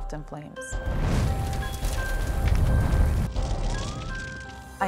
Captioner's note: fire crackling